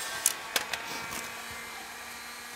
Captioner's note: whirh